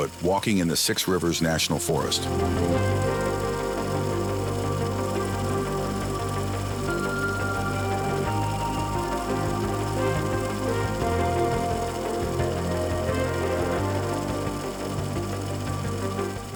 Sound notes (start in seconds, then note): 2.6 reel flickering; 2.6 suspenseful music continues; 13.7 reel flickering continues; 13.7 suspenseful music continues